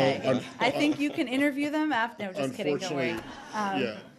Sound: laughter; laughter

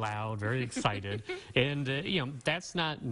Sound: chuckling

